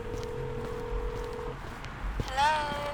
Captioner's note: phone ring